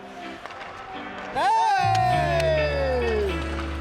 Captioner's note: people cheering; lively upbeat music